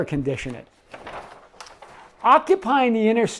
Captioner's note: paper rustling